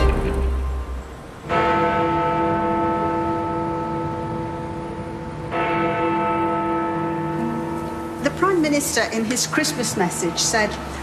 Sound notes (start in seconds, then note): 1.7 bell tolls